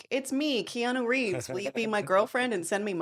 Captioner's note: laughing